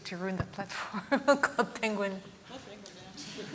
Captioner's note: laughs